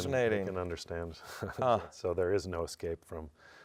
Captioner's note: laughs